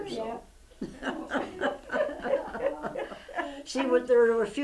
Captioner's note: laughter